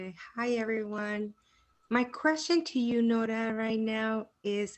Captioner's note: speaks Spanish